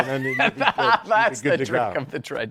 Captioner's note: laughs